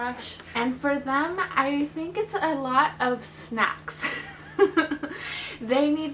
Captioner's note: chuckles